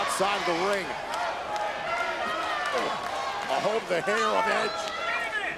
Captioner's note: applause